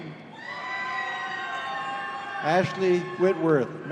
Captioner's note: audience cheering